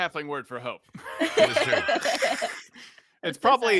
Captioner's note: laughs